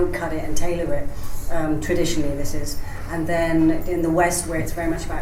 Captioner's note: none